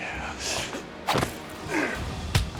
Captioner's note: jack and charles struggling